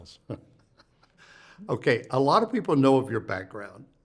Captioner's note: chuckles